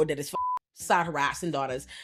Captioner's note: beep